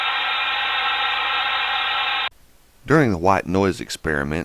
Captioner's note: white noise buzzes